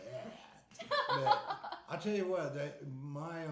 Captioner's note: laughing